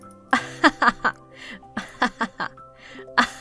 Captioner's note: laughs disingenuously